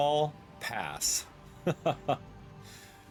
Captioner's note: laughs